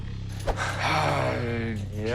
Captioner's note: sighs